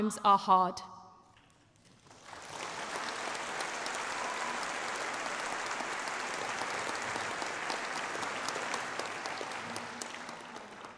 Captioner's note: applause